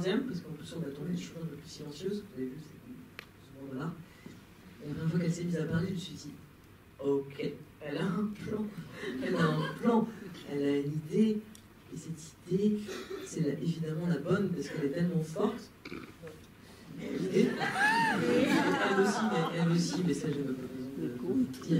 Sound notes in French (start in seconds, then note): 17.0 rires